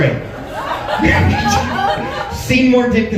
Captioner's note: laughs